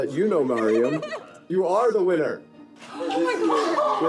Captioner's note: laughing